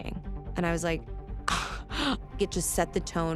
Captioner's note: scoffs